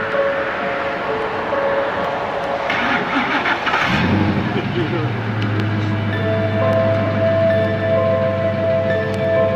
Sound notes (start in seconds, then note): 3.0 car engine roars; 6.5 eerie music